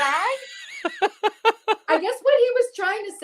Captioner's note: laughs